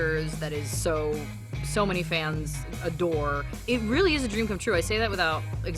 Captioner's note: none